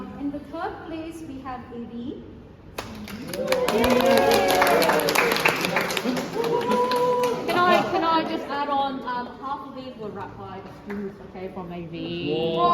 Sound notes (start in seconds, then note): 3.2 cheers and applause